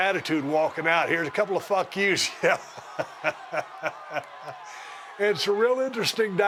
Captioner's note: laugh